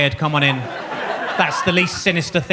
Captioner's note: audience laughs